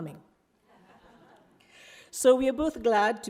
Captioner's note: audience laughs